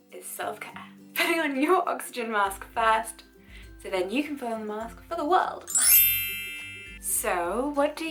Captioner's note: magical sparking